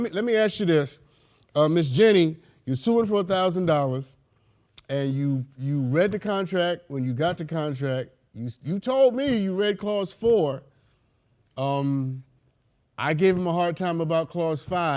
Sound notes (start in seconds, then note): none